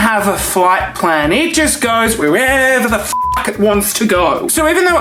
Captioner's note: beep